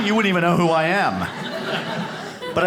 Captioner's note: audience laughs